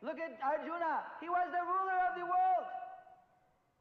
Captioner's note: in Hindi